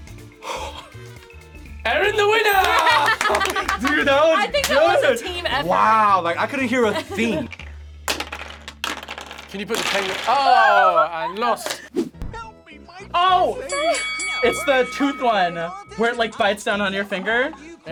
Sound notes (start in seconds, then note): 0.3 laughs; 8.8 ice clatters